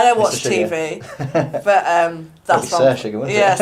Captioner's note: speaker laughs